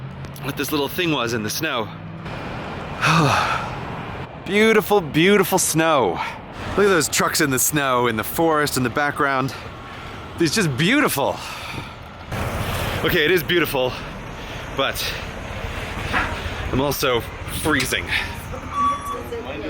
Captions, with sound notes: what this little thing was in the snow. *deep exhale* Beautiful BEAUTIFUL snow! Look at those trucks in the snow and the forest in the background.... It's just BEAUTIFUL! Ok, it is beautiful, but...... I'm also FREEZING.